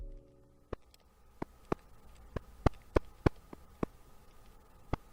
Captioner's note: clamping sound